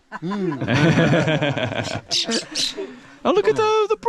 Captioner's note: group laughing